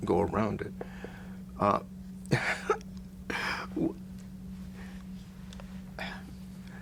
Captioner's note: laughs